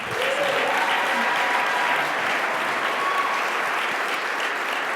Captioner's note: audience applauding